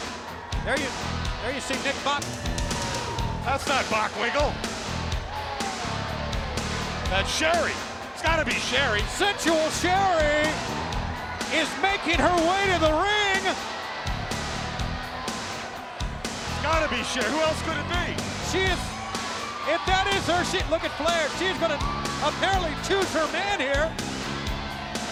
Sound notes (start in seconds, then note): 5.1 upbeat rock music continues; 13.9 upbeat rock music continues; 15.3 crowd cheering